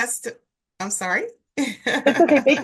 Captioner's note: laughing